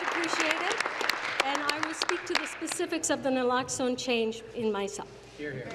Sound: applause

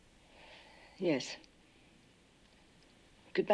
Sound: none

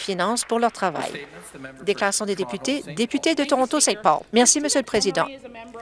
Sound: some Applause

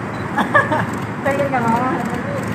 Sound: laughter

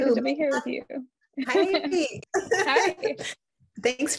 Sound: both chuckle

